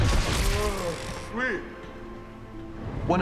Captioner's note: yawns